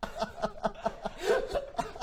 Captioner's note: giggles